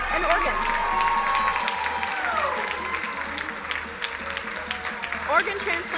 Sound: crowd cheering and applauding

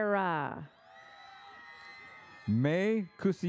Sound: audience applauds

